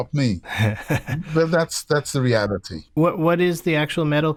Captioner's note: laughter